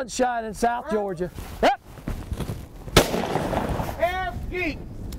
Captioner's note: gunshots firing